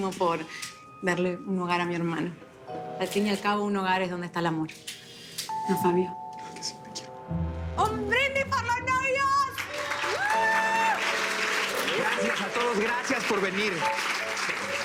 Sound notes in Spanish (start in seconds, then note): 9.5 Aplausos; 9.6 Exclamaciones